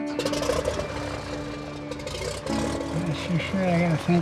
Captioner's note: plane engine whirring